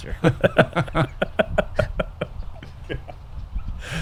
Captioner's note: laughter